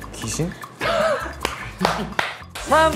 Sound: laughs

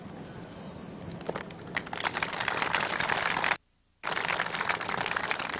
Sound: audience applauding

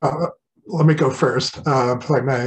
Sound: murmurs

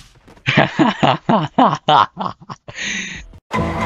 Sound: laughs at self-deletion

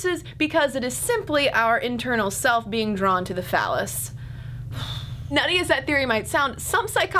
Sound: sigh

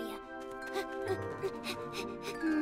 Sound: panting

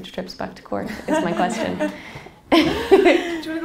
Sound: laughing

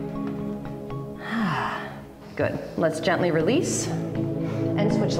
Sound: exhale

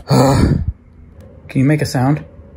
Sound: groans

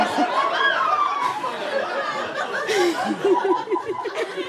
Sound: audience chuckles and squeals; giggles

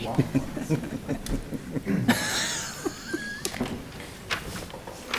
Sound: laughs; man and woman giggling

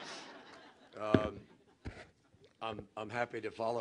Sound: laughter

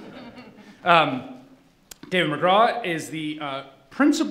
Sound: laughing

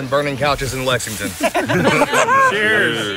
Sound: laughter

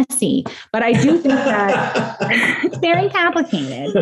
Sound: laughing

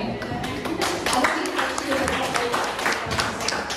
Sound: claps

